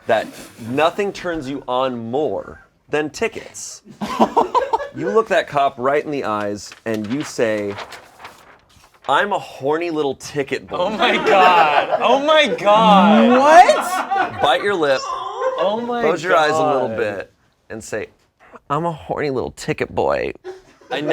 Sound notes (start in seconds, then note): 4.2 chuckles; 13.8 background laughter